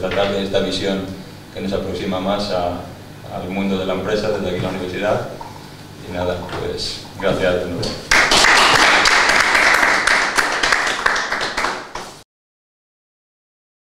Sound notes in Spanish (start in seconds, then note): 8.0 aplauso